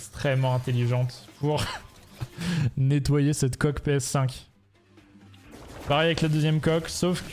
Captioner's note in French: rires